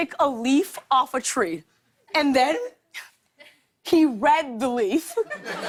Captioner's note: laughter